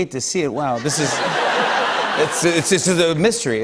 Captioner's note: laughter